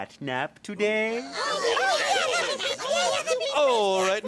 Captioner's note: Little Cats exclaiming